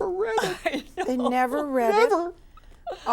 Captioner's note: laughs